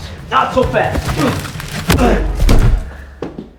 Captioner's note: grunting